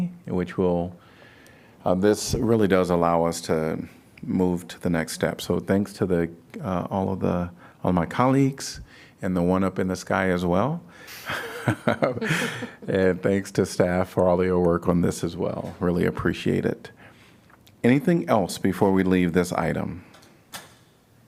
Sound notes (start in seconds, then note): 11.1 laughter